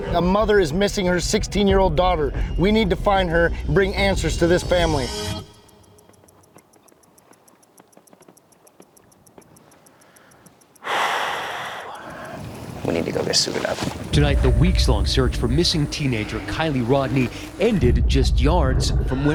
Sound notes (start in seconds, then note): 6.7 water lapping